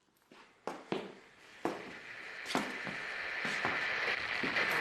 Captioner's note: footsteps pacing back and forth